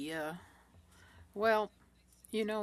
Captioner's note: speaking French